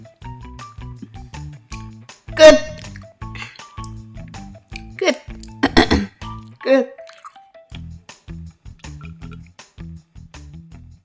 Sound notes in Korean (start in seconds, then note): 5.5 삑사리